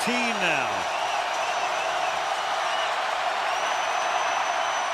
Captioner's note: crowd cheering